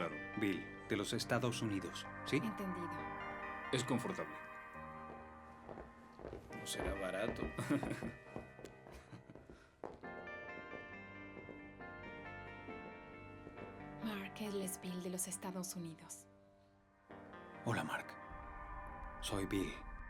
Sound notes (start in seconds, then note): 7.4 laughs